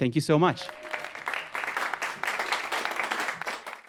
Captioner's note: audience clapping